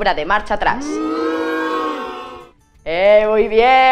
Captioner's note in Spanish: Sonido abucheos